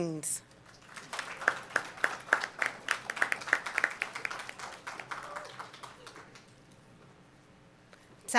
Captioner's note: applause